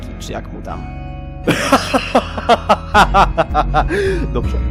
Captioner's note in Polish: Jerzy się śmieje